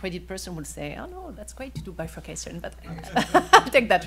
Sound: laughing

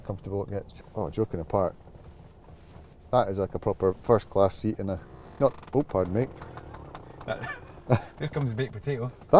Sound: creaks

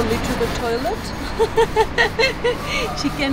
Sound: chuckles

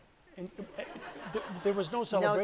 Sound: audience laughs

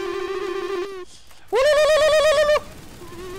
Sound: genghis khan warscream

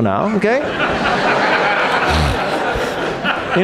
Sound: audience laughs

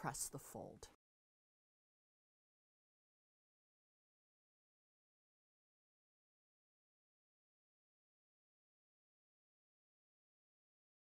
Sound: no Sound Present

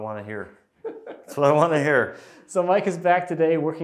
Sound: laughing

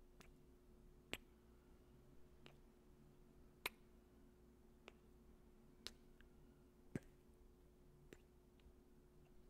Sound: kissing

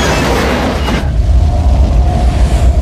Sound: wind howling loudly

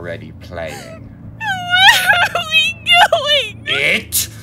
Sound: crying

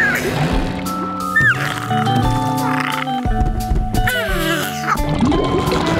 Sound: squeaking

